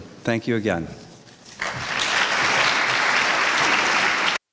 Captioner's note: applause